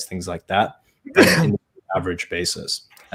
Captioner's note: sneeze drowns out speaker